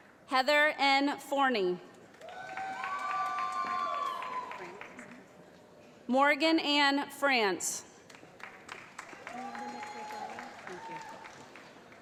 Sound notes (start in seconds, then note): 2.2 cheering; 8.0 applause